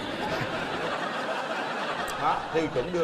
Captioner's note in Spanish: risas